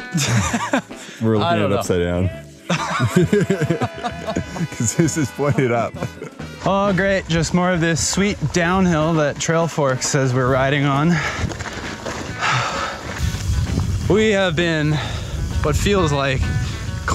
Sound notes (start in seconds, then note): 0.0 laughing; 2.6 both laughing